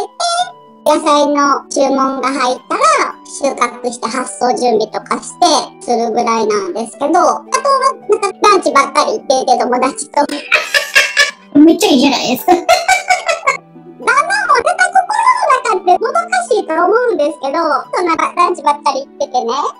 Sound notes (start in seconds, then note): 10.3 laughs